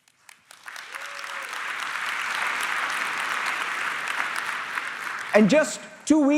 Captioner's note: applause